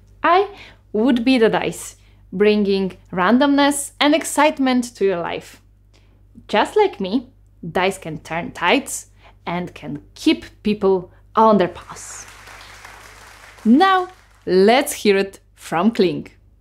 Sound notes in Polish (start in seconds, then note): 11.7 oklaski